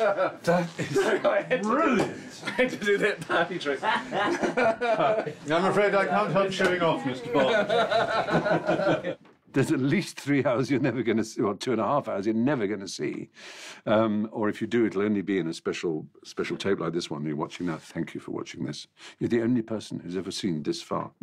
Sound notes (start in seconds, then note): 7.2 all laughing